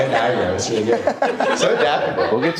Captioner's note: audience laughing